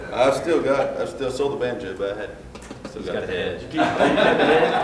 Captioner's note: laughter